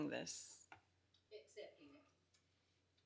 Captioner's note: laughs